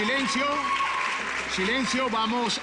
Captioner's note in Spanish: Siguen gritando y aplaudiendo